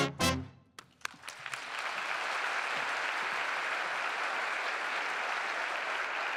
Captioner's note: applause